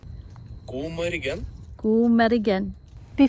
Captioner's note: man speaking foreign language; speaking foreign language